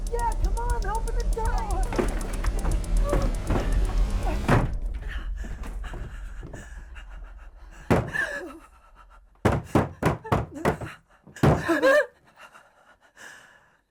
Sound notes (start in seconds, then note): 1.8 door rattling; 4.3 door slams shut; 4.9 both gasping; 7.7 sharp pounding on door; 11.3 both whimpering